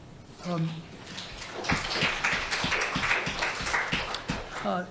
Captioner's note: audience applauding